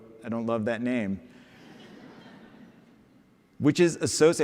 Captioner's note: laughter